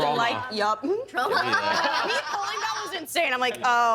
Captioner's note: laughing